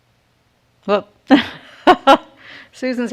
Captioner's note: laughing